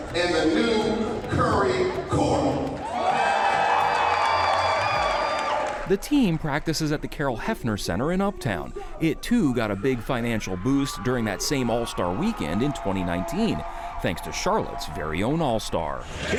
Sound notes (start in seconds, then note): 3.0 audience cheering